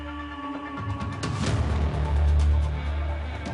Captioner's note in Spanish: Silbido